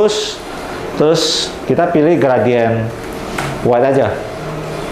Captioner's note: printer machine sound